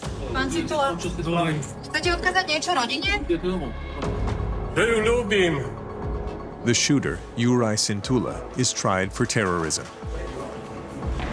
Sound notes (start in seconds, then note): 2.0 non-English speech